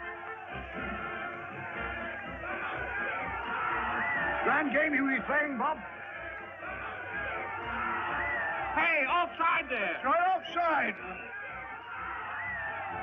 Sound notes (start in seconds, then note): 2.4 crowd cheering; 7.8 crowd cheering